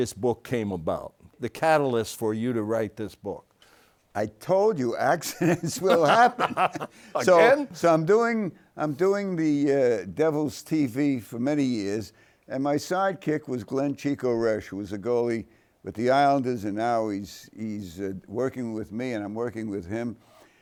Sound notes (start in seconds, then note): 5.2 both laughing